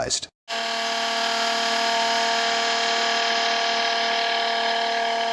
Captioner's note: macerator pump swirling sound